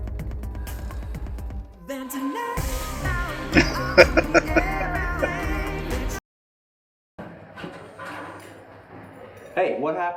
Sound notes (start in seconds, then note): 3.5 laughing